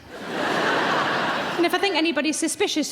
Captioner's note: laughing